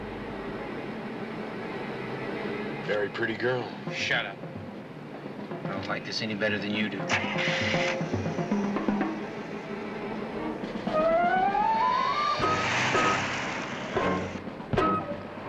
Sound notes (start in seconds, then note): 7.0 engine starts